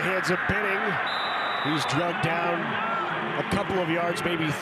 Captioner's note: referee blows whistle